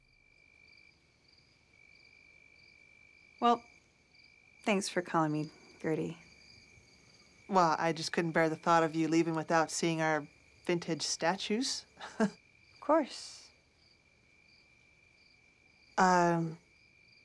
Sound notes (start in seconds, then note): 0.7 crickets; 12.0 laughs